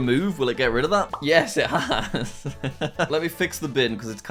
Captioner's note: laughs